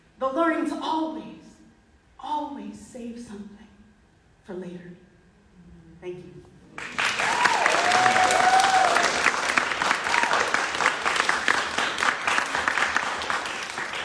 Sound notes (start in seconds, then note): 6.7 audience clapping; 6.9 audience cheering